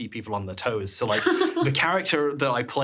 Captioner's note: laughing